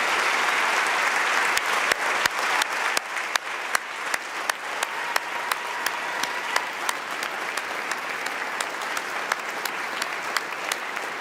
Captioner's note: applause